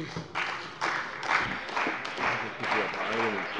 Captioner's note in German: Beifall bei der CDU und dem BÜNDNIS 90/DIE GRÜNEN